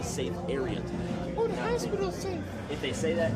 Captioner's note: high-pitched voice